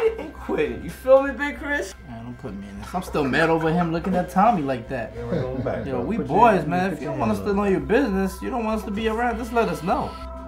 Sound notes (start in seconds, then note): 2.7 laughing; 5.4 chattering